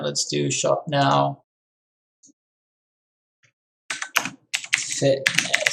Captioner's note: keyboard clicking